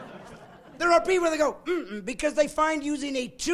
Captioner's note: laughing